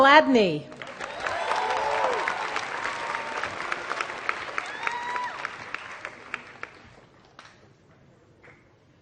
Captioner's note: applause